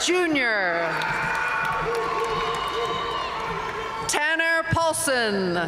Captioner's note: audience cheering and applauding